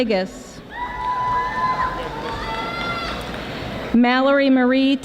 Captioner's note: audience applauding